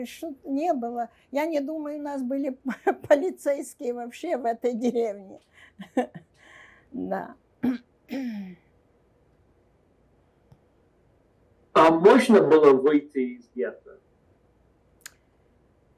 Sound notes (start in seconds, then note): 7.6 clears throat